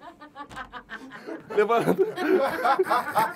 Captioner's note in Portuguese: risadas